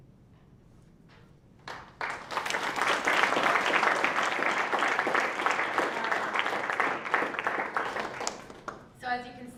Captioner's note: applause